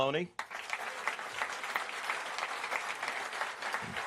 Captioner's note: applause